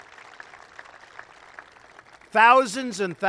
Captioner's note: applause